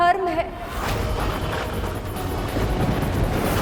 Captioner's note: thundering